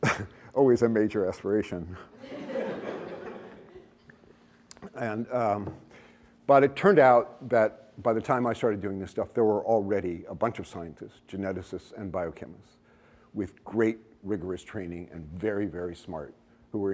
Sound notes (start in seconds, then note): 2.1 laughter